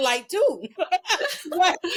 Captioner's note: laughing